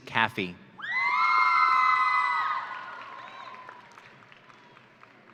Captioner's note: audience cheering